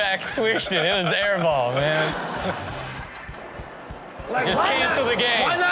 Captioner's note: audience laughs